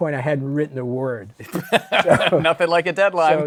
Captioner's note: laughs